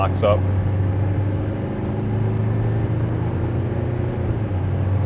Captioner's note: engine revving